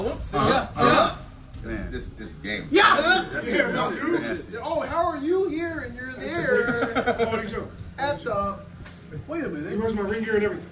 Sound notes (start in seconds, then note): 6.3 laugh